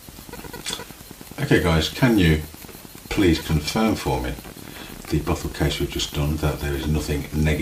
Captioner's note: light static, beeping throughout